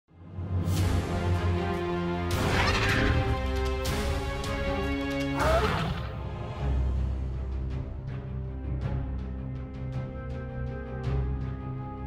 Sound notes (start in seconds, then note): 5.3 dinosaur roaring